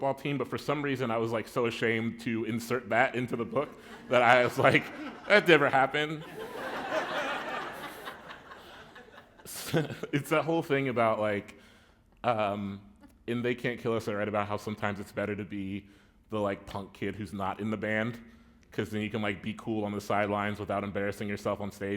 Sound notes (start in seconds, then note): 9.3 laughter